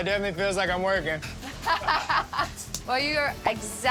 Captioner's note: laughter